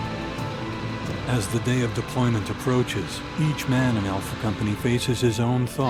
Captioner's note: voiceover